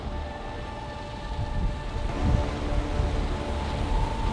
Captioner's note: boat motor rattles; threatening music